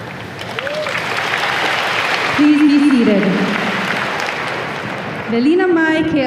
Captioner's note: audience applause